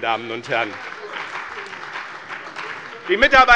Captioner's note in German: Beifall bei dem BÜNDNIS 90/DIE GRÜNEN und der CDU